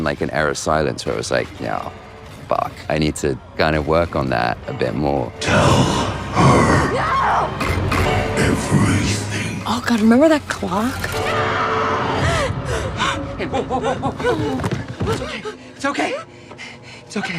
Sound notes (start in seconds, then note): 12.3 gasps; 16.1 Nancy whimpering